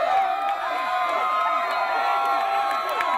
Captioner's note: people Cheering